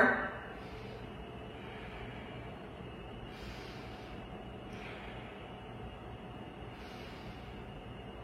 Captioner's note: exhales; inhales; exhales; inhales